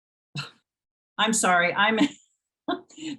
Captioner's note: laughs